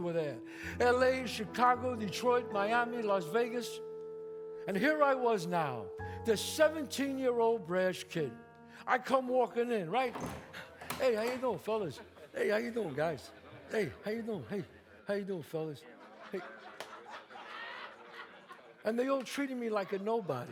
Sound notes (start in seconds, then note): 10.0 door opens; 15.6 audience laughs